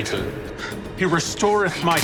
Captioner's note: groaning